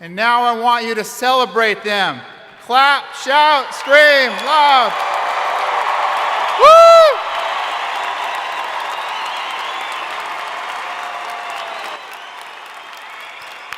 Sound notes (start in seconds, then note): 4.9 crowd applauding; 4.9 crowd cheering